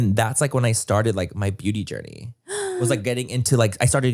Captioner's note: gasps